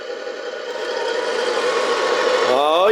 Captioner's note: truck engine roars